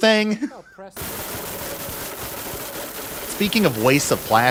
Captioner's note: blender Noises